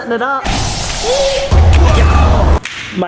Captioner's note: explosion